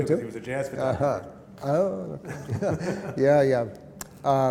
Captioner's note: laughter